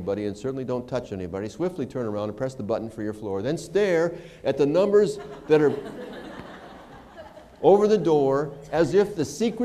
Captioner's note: laughter